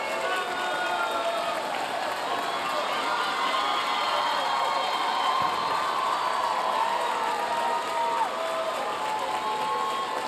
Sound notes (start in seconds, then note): 2.0 audience cheering; 3.7 audience continue cheering and applauding